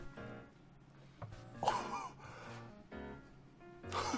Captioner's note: laugh